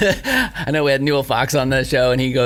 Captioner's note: laughs